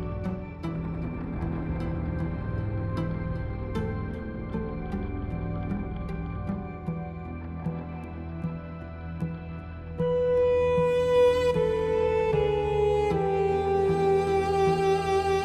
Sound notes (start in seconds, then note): none